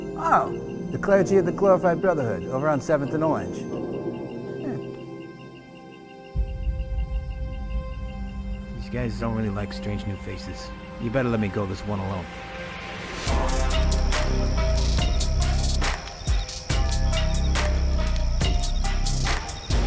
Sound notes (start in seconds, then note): 13.0 dynamic music; 13.2 cicadas chirping